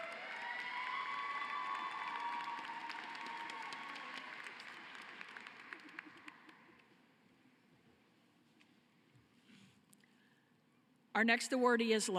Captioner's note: cheering and applause